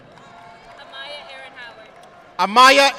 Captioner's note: audience clapping